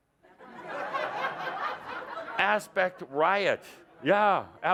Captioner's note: laughter